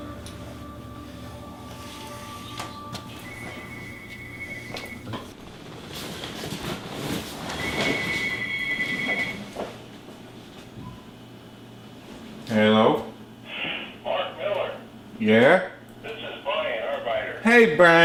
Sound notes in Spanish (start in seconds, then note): 3.8 el teléfono suena